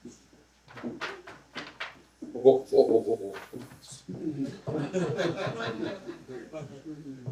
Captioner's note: laughter